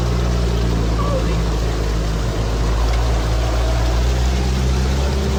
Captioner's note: car engine rumbling